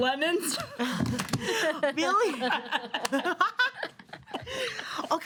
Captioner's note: women laughing